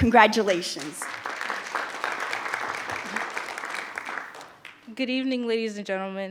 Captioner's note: group applauds